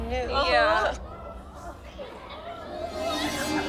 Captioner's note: audience murmuring